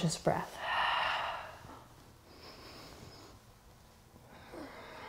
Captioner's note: deep breathing